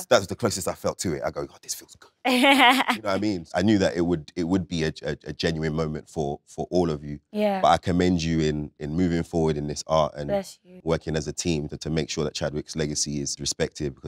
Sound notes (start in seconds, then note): 2.3 Letitia laughs